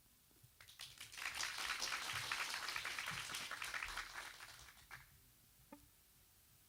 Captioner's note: applauds